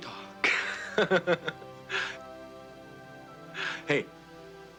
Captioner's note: Casey laughing